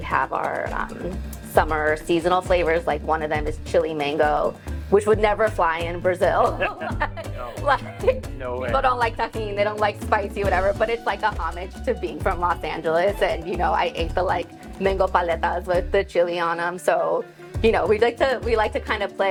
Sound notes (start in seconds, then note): 6.4 both chuckle